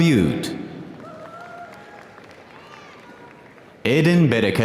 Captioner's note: audience applauding